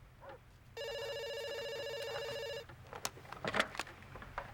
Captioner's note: phone ringing